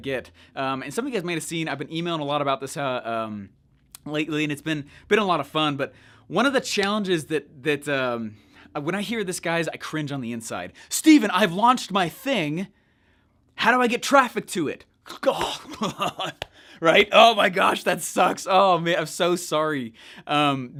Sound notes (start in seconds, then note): 15.2 chuckles